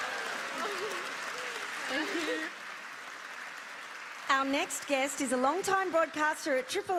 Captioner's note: applause